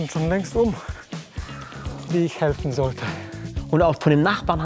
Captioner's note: Er stöhnt